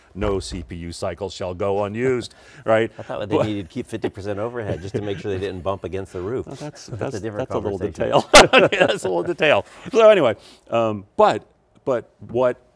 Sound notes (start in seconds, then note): 8.1 both laugh